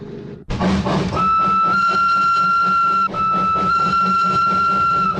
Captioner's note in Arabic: صافرة القطار